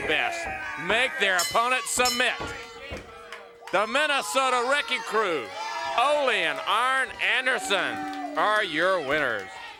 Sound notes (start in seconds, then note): 1.3 bell dinging